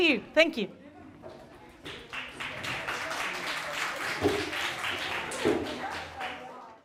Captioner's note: applause